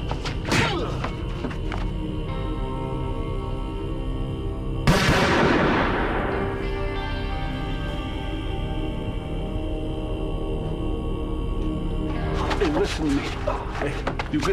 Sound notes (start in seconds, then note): 0.9 punch lands; 4.8 gun shoots